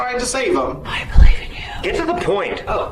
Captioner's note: whispering